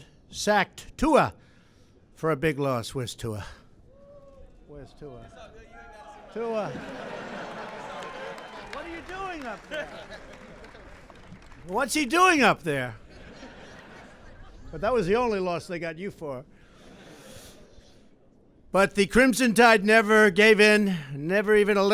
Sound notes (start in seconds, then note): 7.1 applause; 13.0 laughter